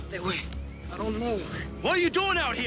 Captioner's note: speaking Spanish